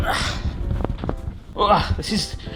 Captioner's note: grunting